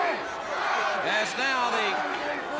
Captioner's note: crowd cheering